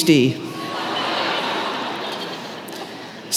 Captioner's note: laughter